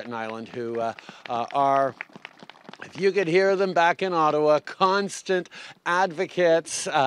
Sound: applause

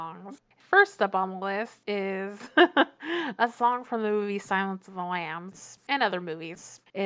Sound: laughs

